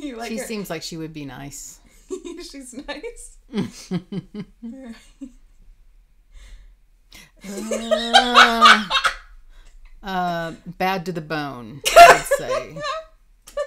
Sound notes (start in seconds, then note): 3.5 both laughing; 7.4 laughing